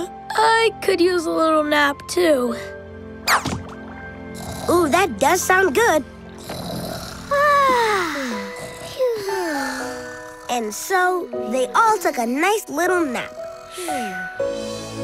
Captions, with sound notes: I could use a little nap too. Ooh, that does sound good. [sighing] [sighing] And so, they all took a nice little nap.